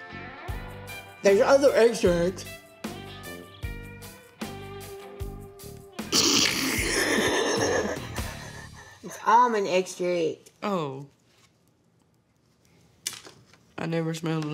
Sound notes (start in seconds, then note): 6.2 laughs